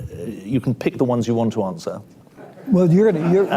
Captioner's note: laughter